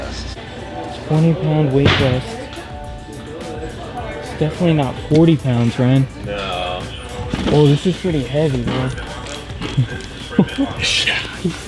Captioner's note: laughs